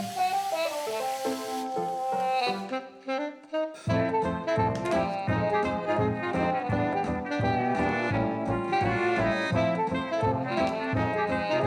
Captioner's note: water running